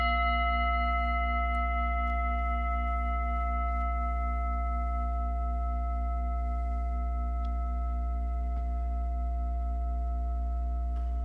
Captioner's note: singing bowl rings